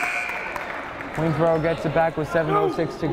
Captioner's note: buzzer blaring